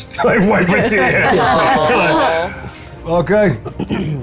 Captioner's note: players laughing